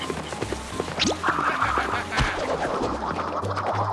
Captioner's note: laughs